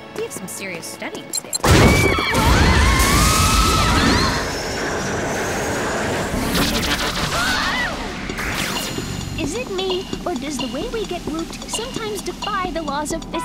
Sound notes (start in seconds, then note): 4.1 screaming; 9.0 shrieking